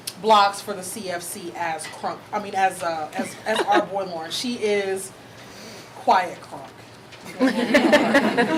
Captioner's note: audience laughing